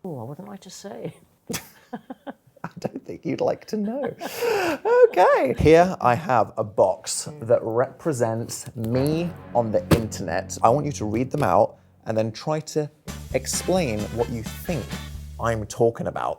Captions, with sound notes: - Oh, wouldn't like to say. (both chuckles) - I don't think you'd like to know, okay. Here I have a box that represents me on the internet. I want you to read them out and then try to explain what you think I'm talking about.